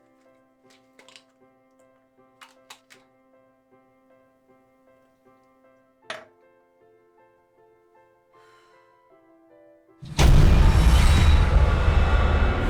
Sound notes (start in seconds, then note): 8.0 sighing; 10.0 dramatic music